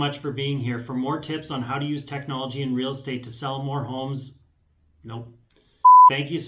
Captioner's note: beep